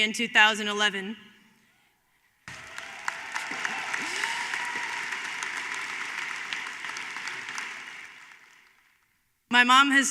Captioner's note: applause